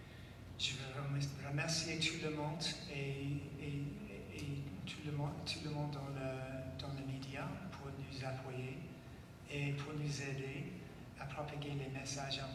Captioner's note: speaking French